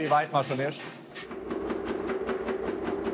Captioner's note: rattling